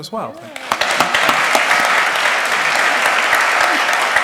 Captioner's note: applause